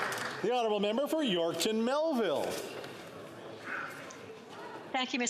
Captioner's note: some Applause